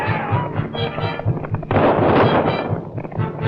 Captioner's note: gunshots